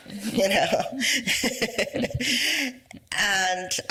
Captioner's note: laughs